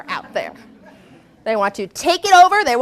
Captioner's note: laughter